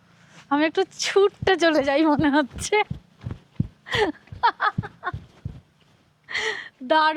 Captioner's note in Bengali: সশব্দ হাসি